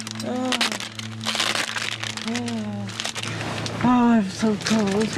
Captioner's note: breathing painfully